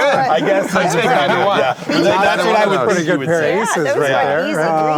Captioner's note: group chattering